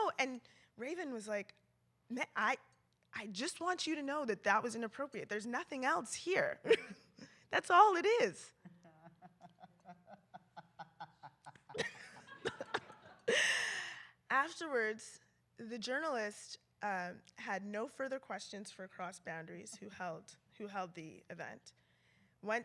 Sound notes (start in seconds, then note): 8.7 laughter